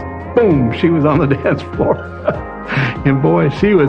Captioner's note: chuckles